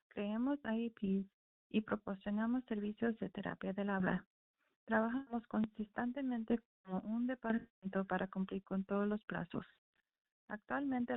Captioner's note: speaking spanish